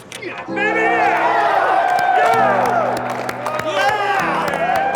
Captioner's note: cheering